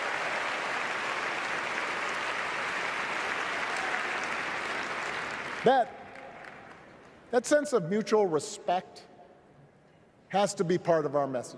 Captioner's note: applause